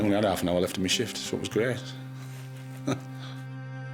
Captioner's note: laughs; gentle music